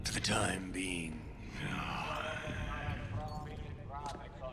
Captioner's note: grunting